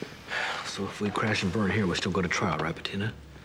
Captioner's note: sighs